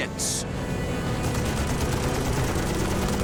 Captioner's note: gunfire